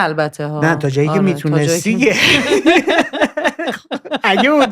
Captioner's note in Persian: خنده